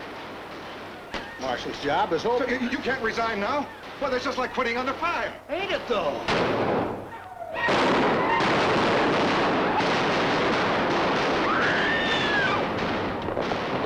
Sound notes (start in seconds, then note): 7.5 gunshots; 11.5 woman screams